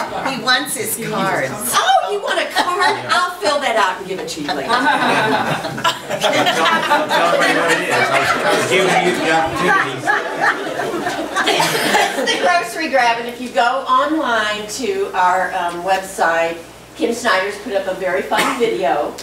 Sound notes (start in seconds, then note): 0.0 group laughs; 3.8 group laughs; 5.0 overlapping chattering